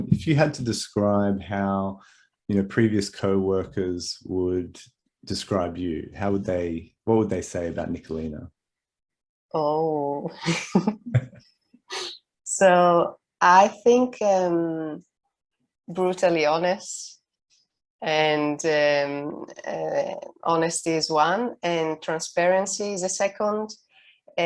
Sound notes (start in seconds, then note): 10.4 chuckles; 11.0 laughs